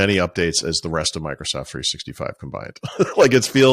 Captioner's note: laughing